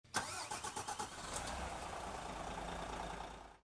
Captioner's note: engine starting